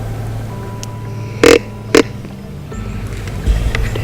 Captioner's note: soft music; sound of grunt calls